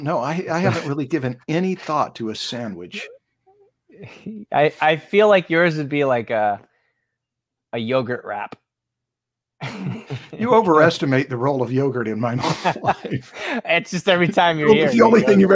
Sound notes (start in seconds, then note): 9.6 laughs; 12.3 laughter